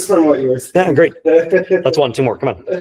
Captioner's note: colleague laughing